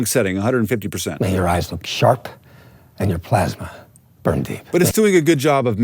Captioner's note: movie dialogue plays